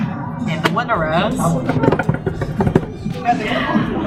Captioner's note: drum roll on the table